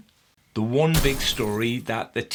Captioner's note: explosive smash